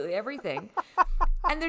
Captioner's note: laughing loudly